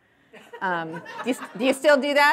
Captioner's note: audience laughing